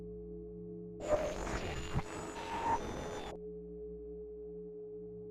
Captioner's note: static interference